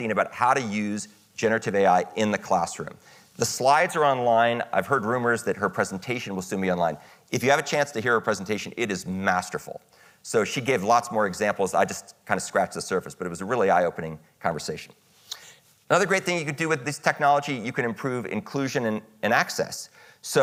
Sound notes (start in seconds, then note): none